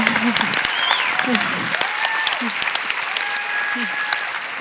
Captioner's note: applause